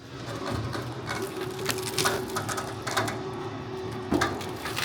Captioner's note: machine whirring